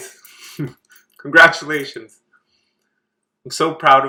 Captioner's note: laughs